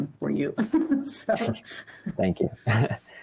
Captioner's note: laughter